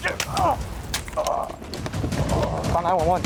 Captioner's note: gun bangs